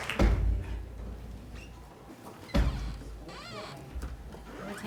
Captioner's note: applause